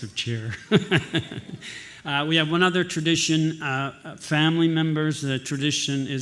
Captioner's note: laughs